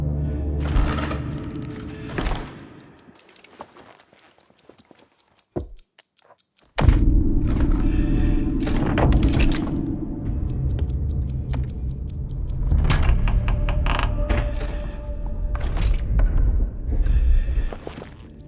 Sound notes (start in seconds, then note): 3.7 ticking; 7.6 muffled breathing; 10.2 chess clock ticking; 15.6 heavy breathing